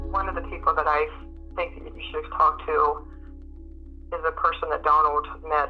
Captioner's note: none